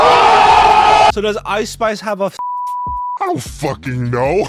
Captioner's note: crowd cheering; beep